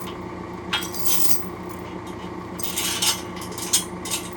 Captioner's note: chains clinking